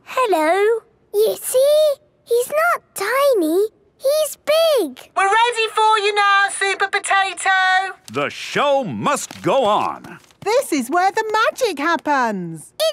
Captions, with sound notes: - Hello! - You see!? He's not tiny, he's big! - (through megaphone) We're ready for you now, Super Potato. - The show must go on! - This is where the magic happens!